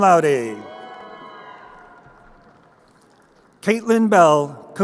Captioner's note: crowd cheering